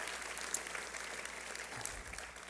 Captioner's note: applause